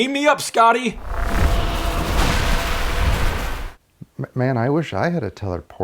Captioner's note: warp sound